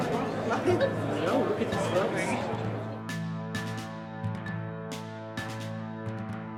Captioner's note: muffled overlapping chattering; bright music